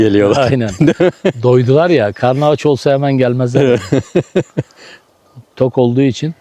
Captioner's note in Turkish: kahkaha